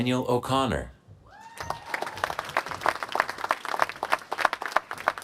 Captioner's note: applause